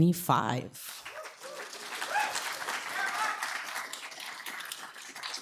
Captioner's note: applause